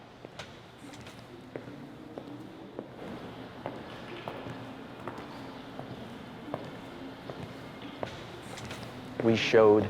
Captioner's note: sounds of shoes getting closer and closer